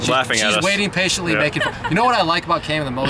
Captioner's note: laughs